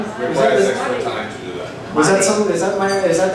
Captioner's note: voiceover